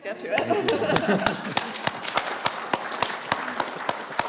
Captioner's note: audience applauding